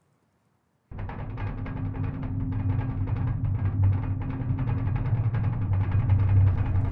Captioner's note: gentle dramatic music; rattling gears